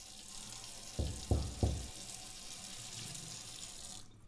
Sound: soft door knock

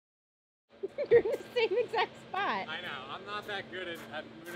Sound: laughing

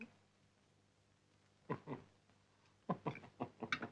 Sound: chuckles

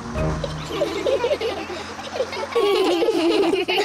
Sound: all giggle

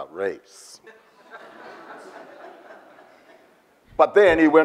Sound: audience laughs

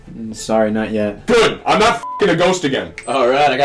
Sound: beep

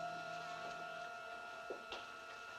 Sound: flies buzzing

